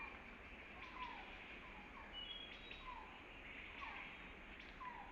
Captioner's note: birds calling